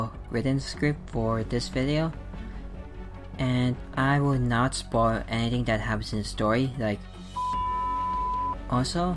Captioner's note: beep!